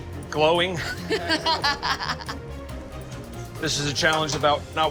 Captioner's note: laughing